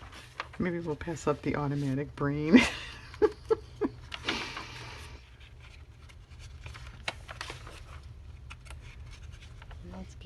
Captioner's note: laughs